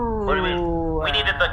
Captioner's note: makes celebratory noises, immediately stops and makes unhappy noises instead